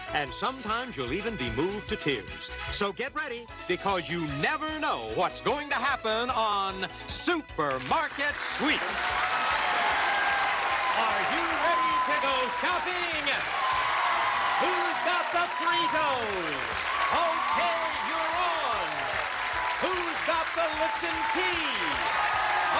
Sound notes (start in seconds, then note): 9.2 cheers and applause